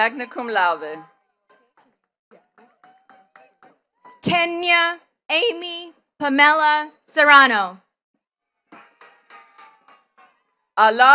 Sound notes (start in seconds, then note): 2.3 attendees clapping; 8.6 attendees cheering and clapping